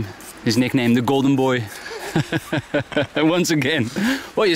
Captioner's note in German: Männer lachen